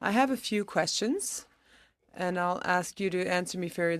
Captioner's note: speaking in french